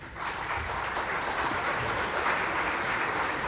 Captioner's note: crowd clapping